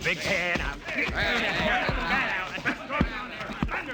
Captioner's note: all chattering